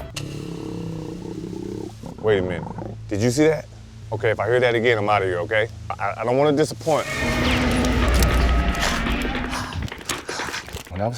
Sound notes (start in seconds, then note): 0.1 wild boar growling; 6.9 animal roaring; 8.3 running